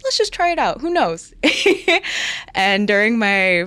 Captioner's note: laughing